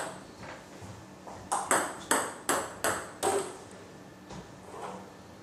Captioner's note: balls ping pong hitting continues